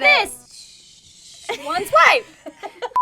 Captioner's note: blows; beep; laughing